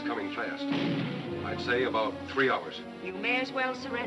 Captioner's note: cannon firing